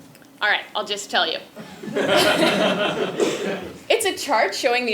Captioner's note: laugh